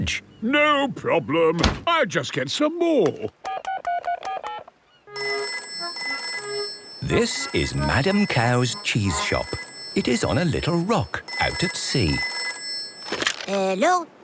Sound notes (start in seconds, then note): 3.2 dial tone; 5.0 phone rings